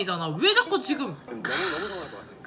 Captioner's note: sigh